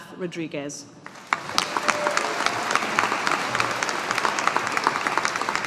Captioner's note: audience applauding